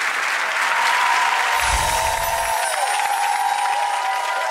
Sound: audience cheering

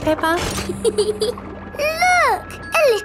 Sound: peppa giggles

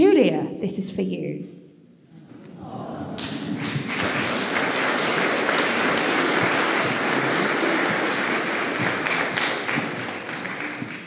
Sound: applause

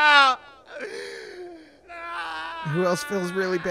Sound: breathes in, and starts crying

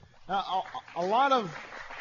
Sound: applause

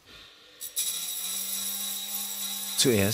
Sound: grinding noises

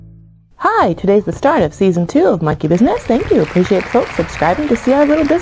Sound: sound of applause is heard

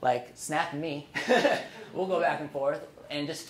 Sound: laughing

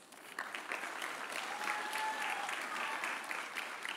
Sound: audience applauding

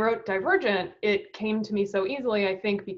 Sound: none

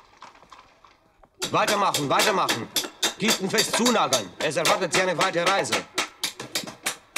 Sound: in German

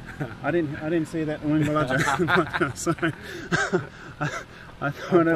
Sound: laughing

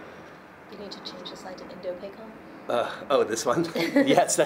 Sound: murmurs

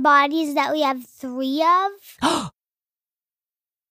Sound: gasps

